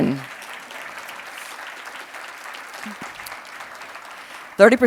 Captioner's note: audience clapping